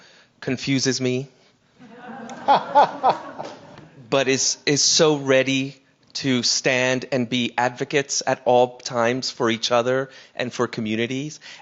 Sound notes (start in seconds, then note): 1.8 audience laughing